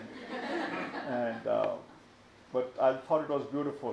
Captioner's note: audience laughs